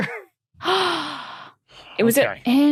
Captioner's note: gasps